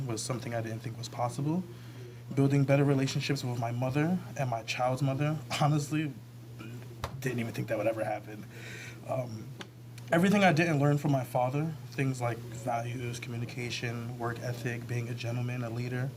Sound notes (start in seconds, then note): none